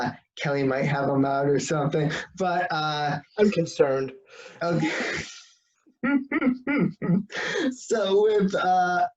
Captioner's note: laugh